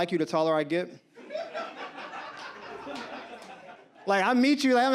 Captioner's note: audience laughs